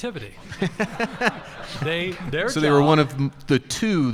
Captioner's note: audience laughing